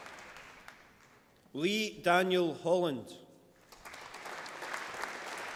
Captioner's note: applause